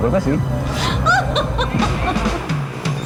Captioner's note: laughs